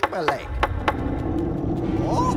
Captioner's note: distant dragon noises